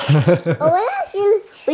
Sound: interviewer laughs

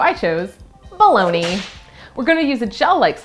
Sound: whipcrack sound effect

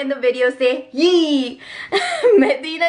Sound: laughs

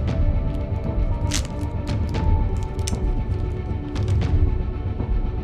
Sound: wrapper rips

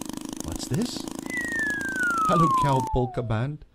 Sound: slide whistle

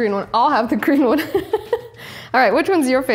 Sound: laughing

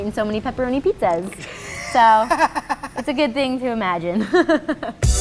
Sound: laughs

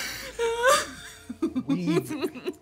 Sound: crying

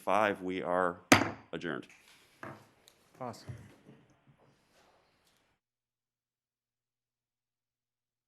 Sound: gavel

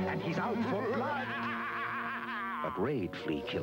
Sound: over-the-top sinister Dracula laugh

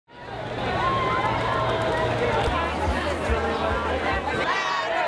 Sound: chanting

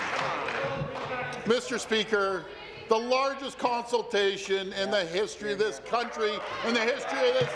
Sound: applause

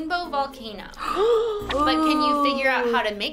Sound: both gasp

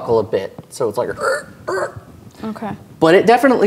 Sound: creaks and groans

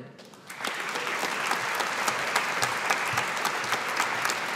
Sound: audience applauding

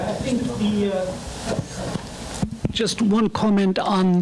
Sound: mic rumbling

